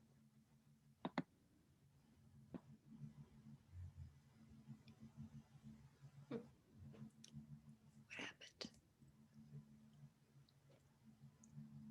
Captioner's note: whispering